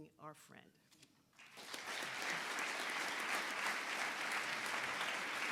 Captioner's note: audience applauding